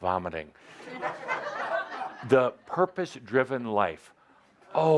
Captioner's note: laughter